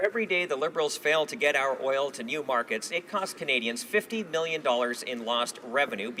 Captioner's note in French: voix de l'interprte